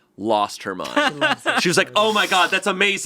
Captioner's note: laughing